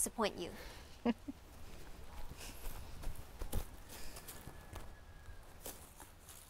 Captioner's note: Abuela and Abuelo chuckling